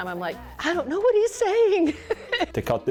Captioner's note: laughs